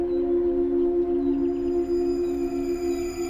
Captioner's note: high-pitched ringing